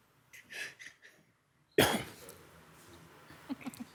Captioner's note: people chuckle